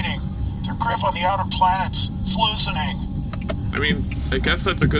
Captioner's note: sound of ship's turn signal